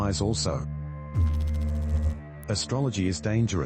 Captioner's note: electrical noise